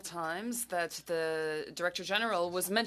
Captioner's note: speaking French